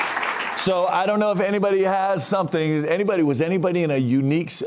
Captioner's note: cheers and applause